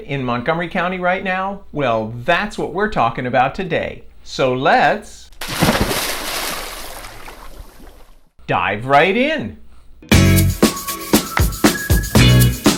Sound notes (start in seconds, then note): 5.3 water splashing; 10.1 upbeat music